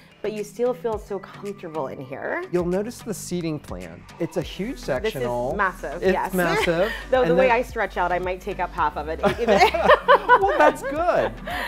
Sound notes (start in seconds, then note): 9.2 laughs